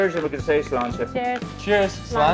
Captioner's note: glasses clinking